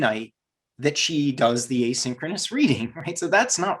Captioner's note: giggles